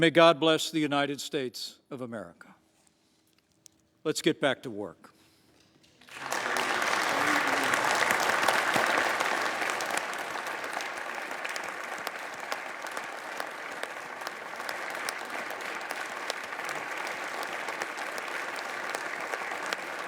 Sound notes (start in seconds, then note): 5.9 applause